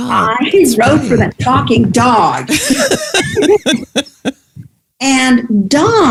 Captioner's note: laughs